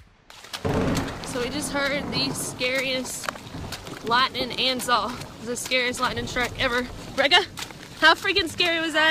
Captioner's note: thunder